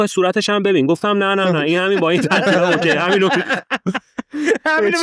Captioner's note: laughs